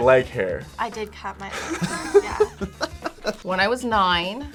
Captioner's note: React laughs